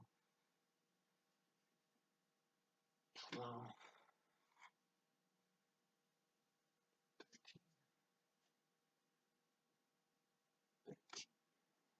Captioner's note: whisper counting mixed with sighs